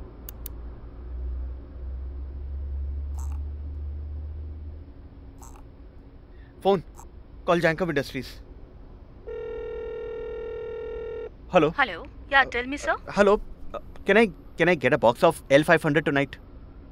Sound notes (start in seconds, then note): 9.2 phone ringing